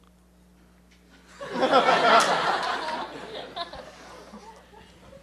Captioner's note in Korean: 청중 웃음